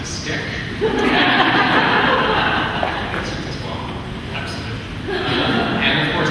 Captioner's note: laughing